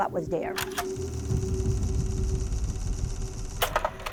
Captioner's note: film reel clacking